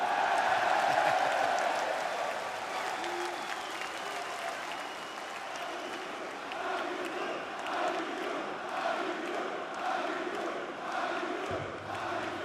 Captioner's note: crowd cheering